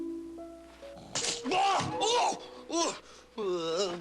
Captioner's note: shouting and spluttering